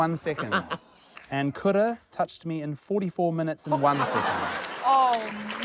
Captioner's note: chuckles; laughter